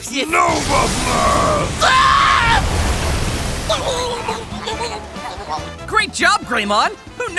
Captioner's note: screaming & Drowning noises